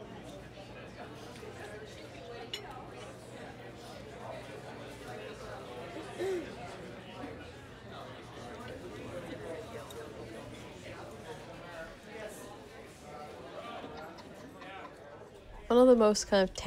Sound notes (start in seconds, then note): 1.2 low hum of chatter, cutlery clinks